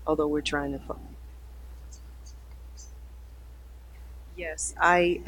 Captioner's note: mic cuts out